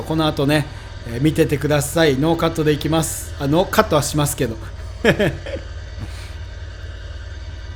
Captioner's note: haha